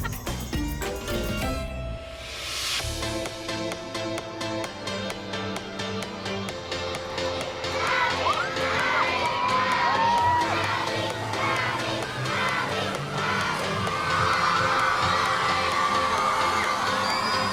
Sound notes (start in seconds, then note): 8.1 chanting; 16.6 all cheering, whooping